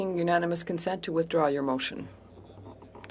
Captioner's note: speaking french